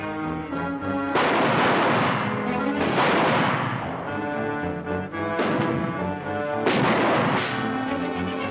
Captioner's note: gunshots - tense music